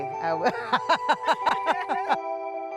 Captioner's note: laughing